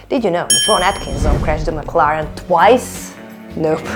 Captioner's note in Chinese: 撞毀